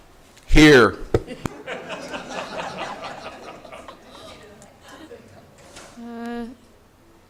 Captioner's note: audience laughing